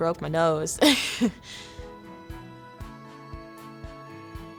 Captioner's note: laughter